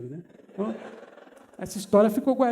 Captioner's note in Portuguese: risos